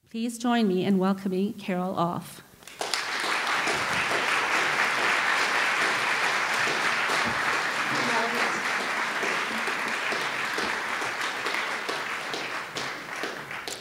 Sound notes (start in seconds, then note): 2.9 applause